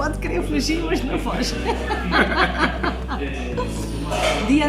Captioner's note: laughs